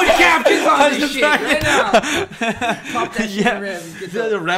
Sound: laughing

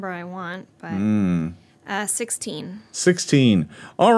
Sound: grunts

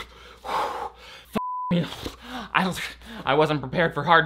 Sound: blowing raspberries; hyperventilating

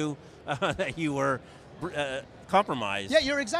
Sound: chuckles

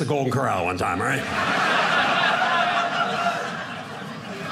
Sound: audience laughing

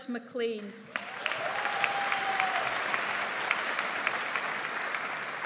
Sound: audience applauds

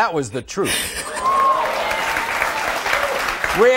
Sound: audience applauding

